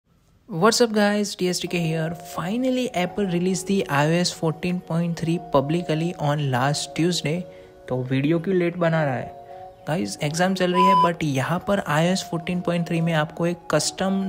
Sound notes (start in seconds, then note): 10.7 beep!